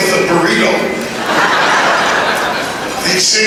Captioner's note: laughter